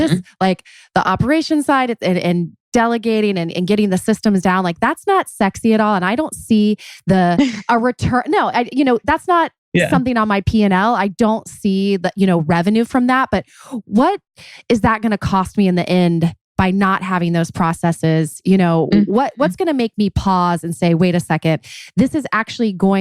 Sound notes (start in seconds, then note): 7.2 laughs